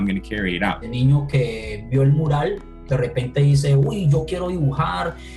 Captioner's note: speaking in foreign language